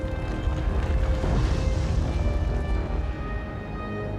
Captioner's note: rumbling